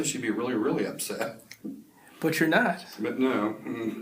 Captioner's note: laughs